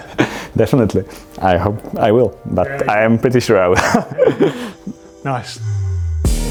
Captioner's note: laughs